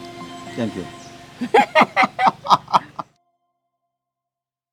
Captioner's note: both laughing